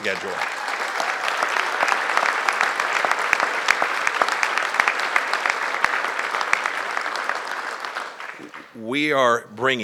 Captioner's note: applause